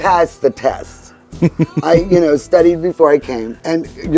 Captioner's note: chuckling